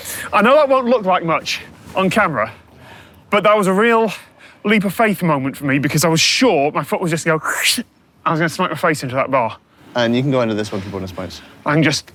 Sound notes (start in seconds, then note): 7.5 imitates scrape